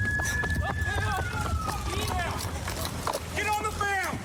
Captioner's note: shouting